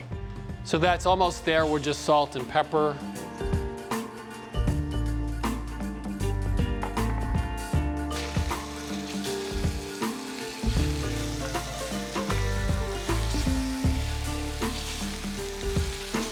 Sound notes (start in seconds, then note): 10.7 sizzling